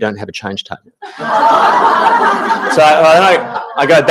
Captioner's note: audience laughing